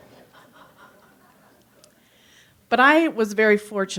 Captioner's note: audience laughs